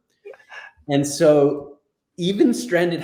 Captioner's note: chuckles